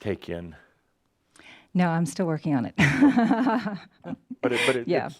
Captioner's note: she chuckles